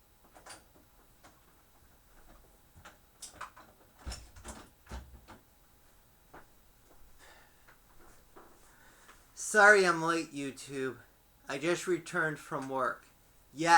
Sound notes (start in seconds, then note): 0.1 turning of door knob, door shuts; 7.2 sighs